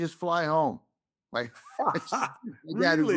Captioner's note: laughs